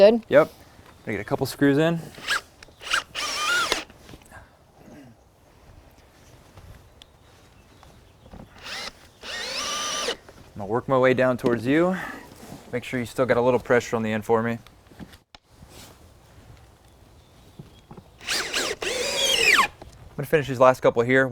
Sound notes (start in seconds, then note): 5.2 drilling. No additional audio